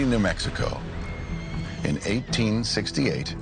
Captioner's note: horse neighing